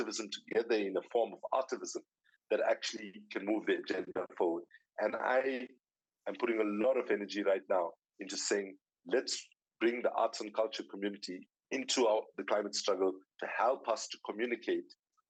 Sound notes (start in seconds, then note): none